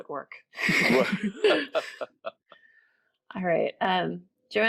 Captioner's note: laughing